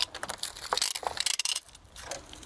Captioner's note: metallic rattling